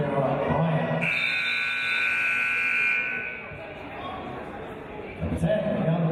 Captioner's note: buzzer; referee's whistle